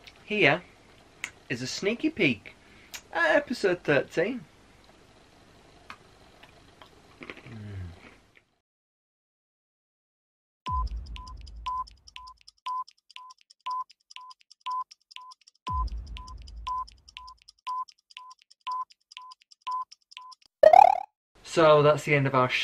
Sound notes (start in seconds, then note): 7.0 crunch; 10.7 clock ticking; 20.6 Mario spin noise